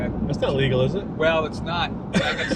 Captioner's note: laughing